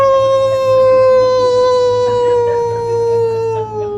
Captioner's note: all laugh